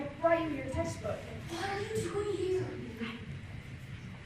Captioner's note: whispering